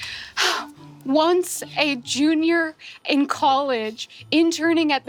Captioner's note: sighs nostalgically